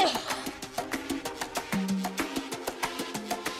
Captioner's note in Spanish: Toses